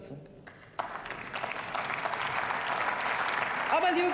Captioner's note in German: Beifall